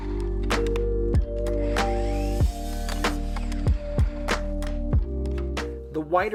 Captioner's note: lively music; saw whizzing